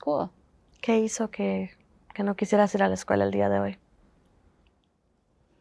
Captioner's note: Spanish